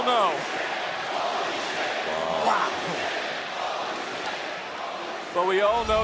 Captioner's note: crowd chants